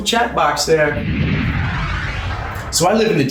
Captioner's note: screen whooshing